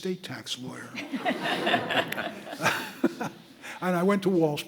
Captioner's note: audience laughing